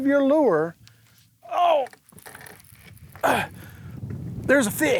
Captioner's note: gasping